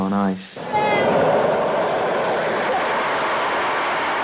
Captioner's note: street noise